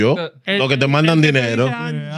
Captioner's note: speaking In Foreign Language